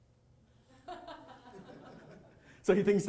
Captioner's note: audience chuckling